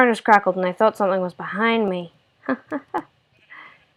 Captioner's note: laugh